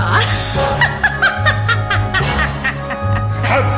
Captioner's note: maniacal cackle